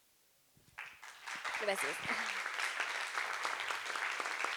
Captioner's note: applause